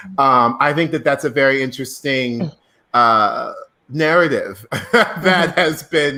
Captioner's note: laughs